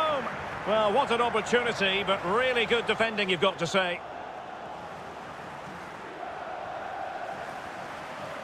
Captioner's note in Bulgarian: Аплодисменти